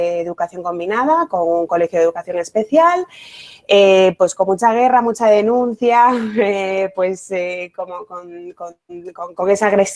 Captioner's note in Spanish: risas